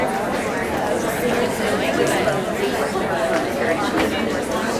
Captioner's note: audience chattering